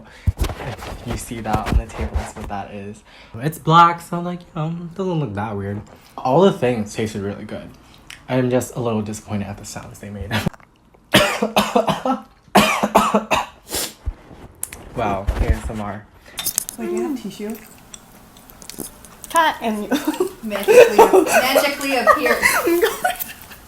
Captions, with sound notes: If you see that on the table, that’s what that is It’s black so it’s doesn’t look that weird All of the things tasted really good I’m just a little disappointed about the sounds they made *cough* *choke* *cough* wow ASMR wait do you have tissue CUT ~magically appears~